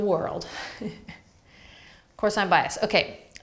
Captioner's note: laughs